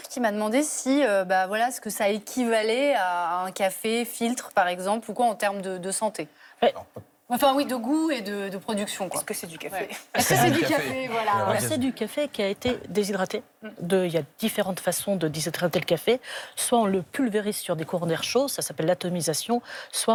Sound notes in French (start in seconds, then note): 10.1 rires